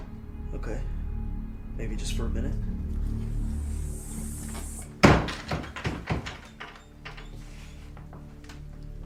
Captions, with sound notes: Okay. Maybe just for a minute. (Door bangs shut)